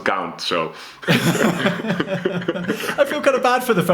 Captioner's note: laughs